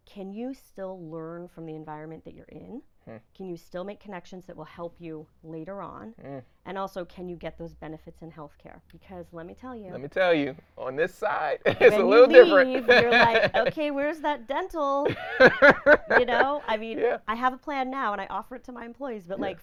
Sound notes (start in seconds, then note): 11.6 laughing; 15.0 laughing